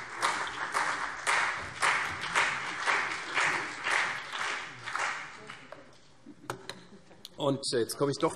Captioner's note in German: Beifall CDU und BÜNDNIS 90/DIE GRÜNEN